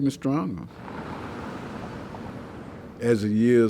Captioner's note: car engine revving